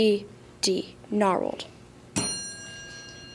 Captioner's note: ding